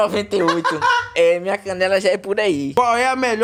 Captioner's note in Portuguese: risadonha